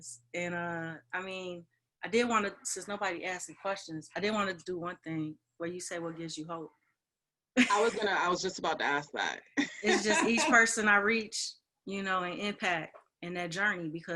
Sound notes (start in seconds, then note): 9.7 laughs